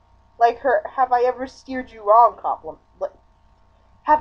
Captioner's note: stammer